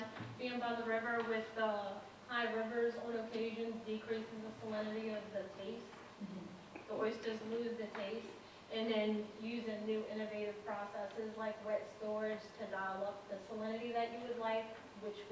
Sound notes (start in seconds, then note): none